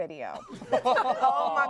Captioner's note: everyone laughs